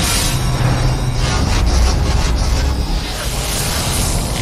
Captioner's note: gate-like sound for descending neck rings